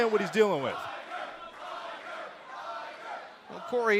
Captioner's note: fans chanting